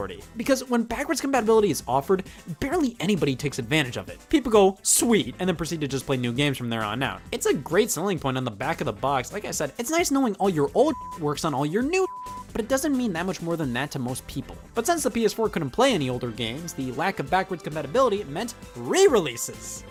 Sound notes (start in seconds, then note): 10.8 beep